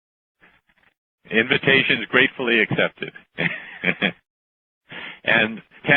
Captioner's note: chuckle